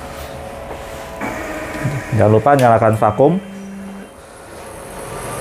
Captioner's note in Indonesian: suara mesin printer